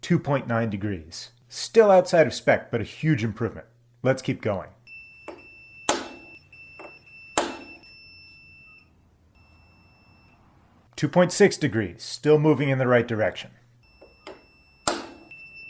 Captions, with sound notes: Two point nine degrees. Still outside of spec, but a huge improvement. Let's keep going. [whack] [whack] [beeping] [beeping stops] [beeping] [beeping stops] Two point six degrees. Still moving in the right direction. [whack]